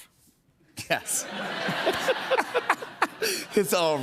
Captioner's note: laughter